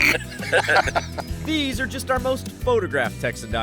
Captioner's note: laughter